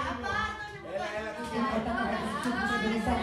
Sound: fast repetitions in Romanian

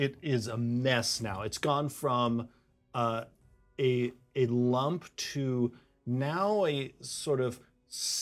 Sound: none

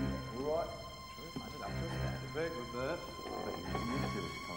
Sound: speaks faintly

